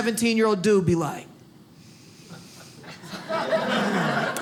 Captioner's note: sniffs; audience laughs